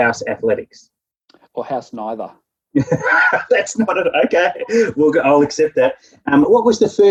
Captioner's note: laughing